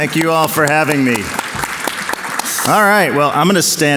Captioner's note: audience claps